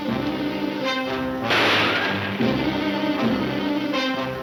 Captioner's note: gunshots banging